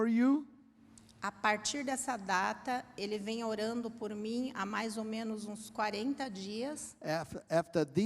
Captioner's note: Hablando idioma extranjero